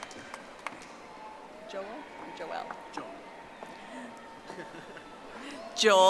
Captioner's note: audience applauding